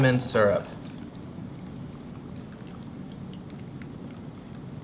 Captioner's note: liquid splashing